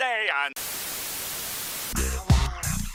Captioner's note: Static